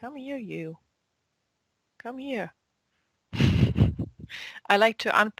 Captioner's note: chuckle